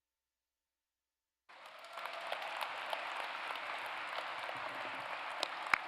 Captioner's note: applause